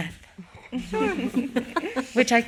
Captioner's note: all laughing